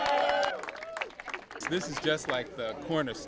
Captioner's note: applause